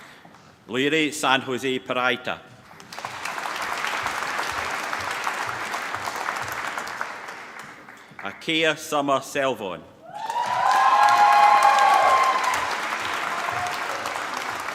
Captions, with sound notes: Leire San Jose Peraita. (APPLAUSE) Akeia Sommer Selvon. (APPLAUSE)